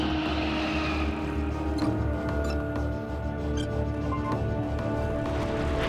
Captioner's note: screen beeping